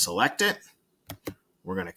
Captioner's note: mouse and Keyboard clicking